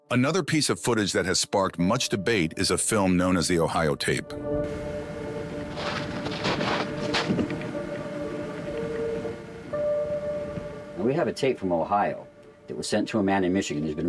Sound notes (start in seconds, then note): 5.4 undergrowth crunching